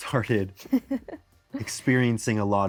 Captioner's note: giggles